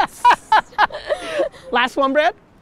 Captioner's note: Gary laughs